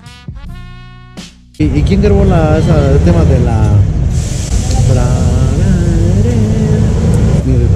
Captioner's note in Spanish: tararea